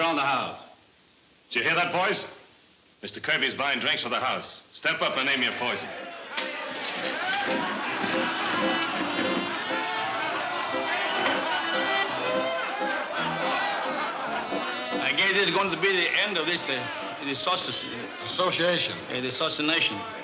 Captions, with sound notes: - Did you hear that, boys? Mr. Kirby's buying drinks for the house. Step up and name your poison. (crowd chattering) (lively fiddle music) - I guess this is going to be the end of this assoc-- - Association. - Yeah, the associanation, no? - Yes.